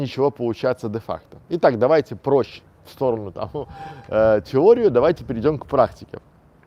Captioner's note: slight chuckle